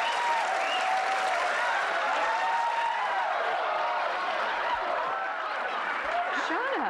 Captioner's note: cheers and applause